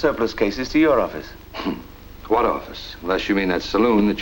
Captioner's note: chuckles